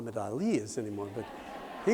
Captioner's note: laughter